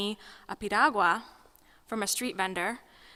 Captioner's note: speaking foreign language